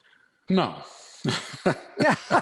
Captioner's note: laughs